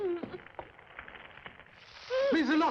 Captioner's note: Lottie moaning